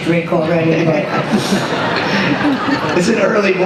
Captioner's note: laughter